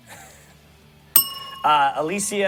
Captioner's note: bell rings